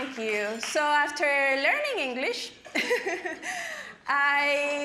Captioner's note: laughing